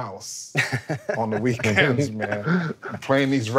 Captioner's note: laughing